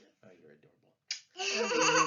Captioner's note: kisses; laughs